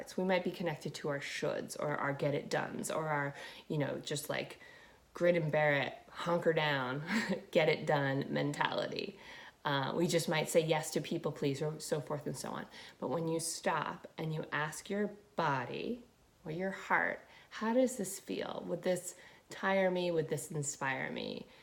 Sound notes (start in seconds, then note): 7.0 laughing